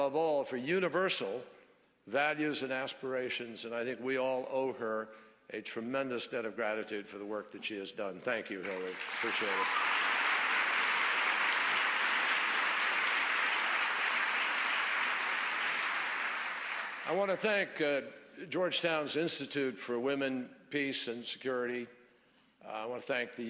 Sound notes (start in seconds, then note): 15.3 applause